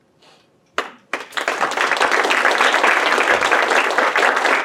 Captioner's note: audience clapping